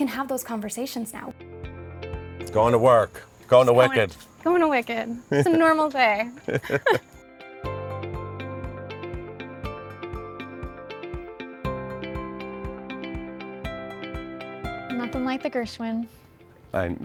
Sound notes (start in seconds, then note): 6.3 chuckling; 7.5 calm music